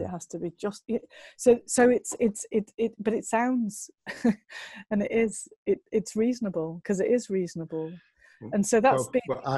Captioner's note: lacht